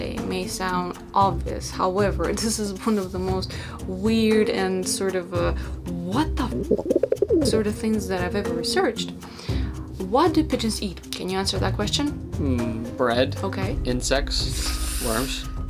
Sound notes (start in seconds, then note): 6.6 Toby coos!